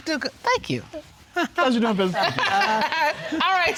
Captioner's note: judge dana laughing